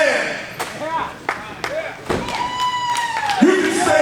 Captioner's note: audience cheering